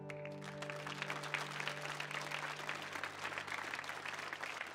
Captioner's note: audience applauds